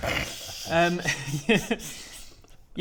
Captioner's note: guilty-as-charged snickering